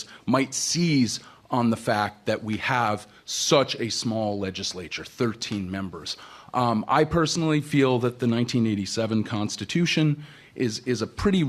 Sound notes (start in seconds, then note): none